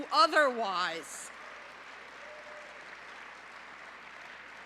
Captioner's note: applause